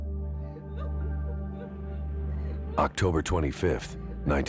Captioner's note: sobbing